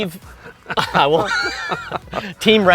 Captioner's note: laughs